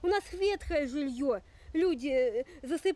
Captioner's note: speaking Russian